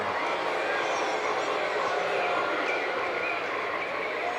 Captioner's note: audience booing